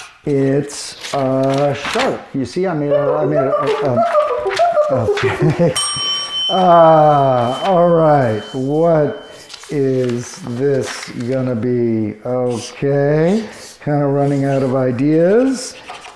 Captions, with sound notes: it's a shark. You see, I made a- (box beeping) Okay. (bell rings) All right, what is this gonna be? Okay, kind of running out of ideas.